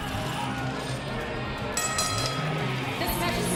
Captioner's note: bell ringing